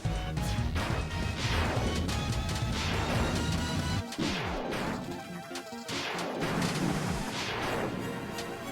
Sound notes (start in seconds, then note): 0.7 lasers firing